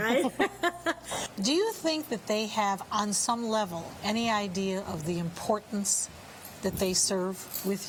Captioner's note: laughing